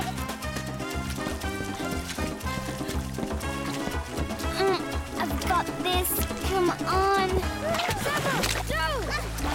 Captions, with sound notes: (grunting) I've got this, come on. Ah! - Sema! No!